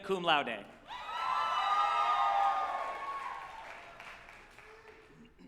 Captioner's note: group applauding and cheering